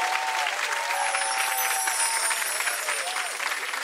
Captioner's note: soft chimes